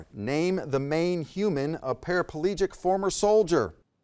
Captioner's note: none